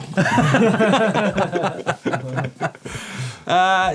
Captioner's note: laughing; laughs